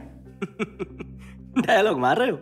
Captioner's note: Laughs